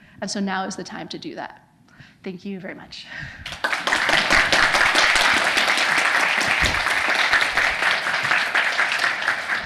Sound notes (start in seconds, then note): 3.4 attendees applauding